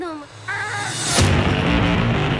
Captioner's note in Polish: okrzyk wysiłku; muzyka elektroniczna